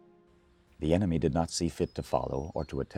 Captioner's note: voiceover